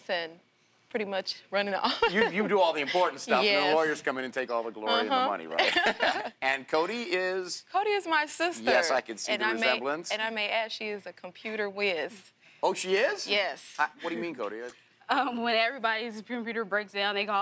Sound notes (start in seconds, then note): 5.0 laughs